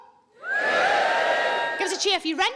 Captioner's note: audience cheering